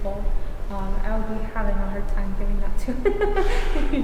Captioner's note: laughs